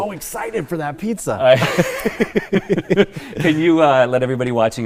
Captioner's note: laughter